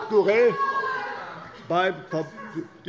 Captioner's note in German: Lachen